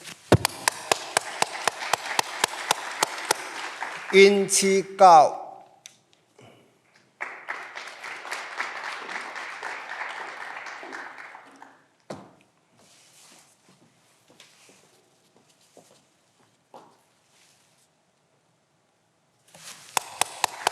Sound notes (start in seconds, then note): 0.3 clapping continues; 7.0 clapping continues; 9.1 footsteps approaching